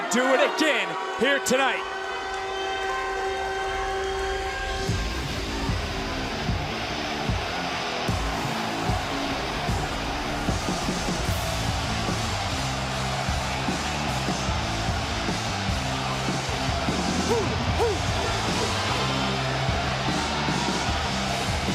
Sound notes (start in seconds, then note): 10.2 cowd cheers